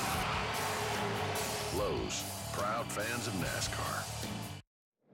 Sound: tires screech, cheers and applause

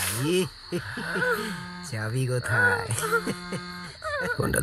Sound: phone vibrating

